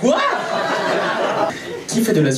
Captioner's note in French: rires public